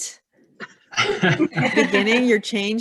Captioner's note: laughing